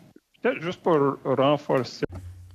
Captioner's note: speaking French